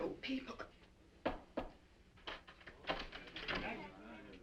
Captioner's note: door knocking